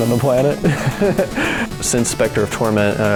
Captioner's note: laughing